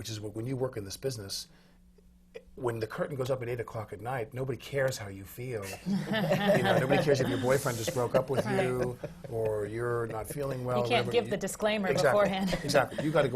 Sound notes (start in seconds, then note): 5.7 laughter